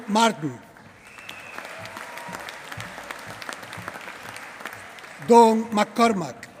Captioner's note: applause